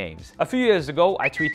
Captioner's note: tweet whistles